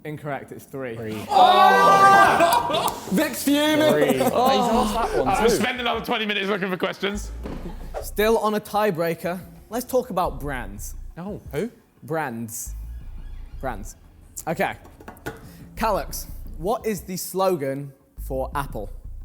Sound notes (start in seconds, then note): 1.0 men shouting; 4.1 men laughing